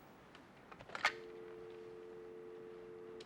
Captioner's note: dial tone